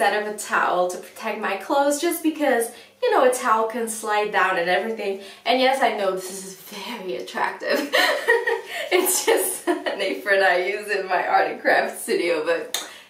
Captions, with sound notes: of a towel to protect my clothes, just because, you know: a towel can slide down and everything.And yes, I know this is very attractive [laughs]. It's just an apron I use in my art and craft studio. But never mind that!